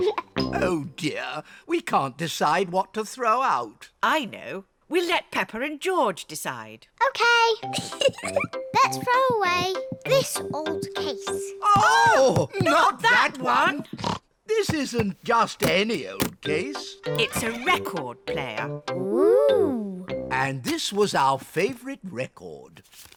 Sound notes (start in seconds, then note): 7.7 giggles; 13.9 snorts